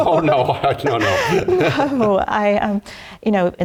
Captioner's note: laugh